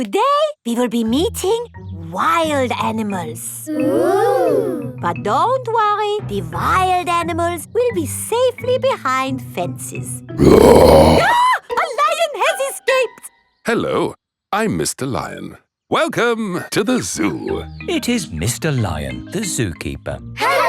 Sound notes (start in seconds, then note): 10.4 roars; 10.4 screams